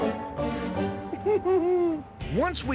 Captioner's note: whimpers